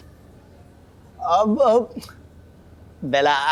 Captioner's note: stammering